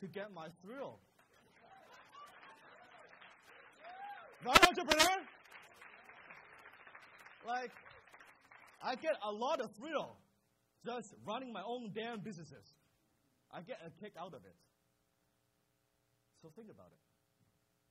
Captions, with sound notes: "to get my thrill." (crowd cheers) Right, entrepreneurs? I get a lot of thrill just running my own damn businesses. I get a kick out of it, so think about it, think about it.